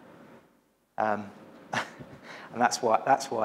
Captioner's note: chuckles